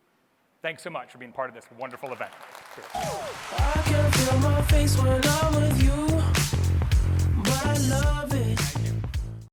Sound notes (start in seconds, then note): 1.7 applause